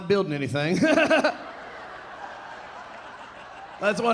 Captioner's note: audience laughing; laughing